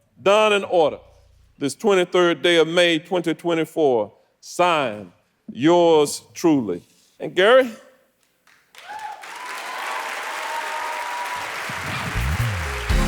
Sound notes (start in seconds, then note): 8.4 audience applauding